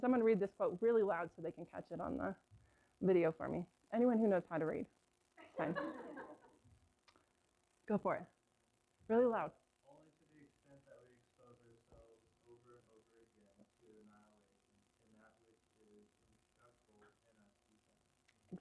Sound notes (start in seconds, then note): 5.4 laughter